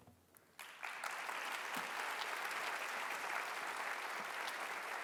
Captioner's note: audience applauding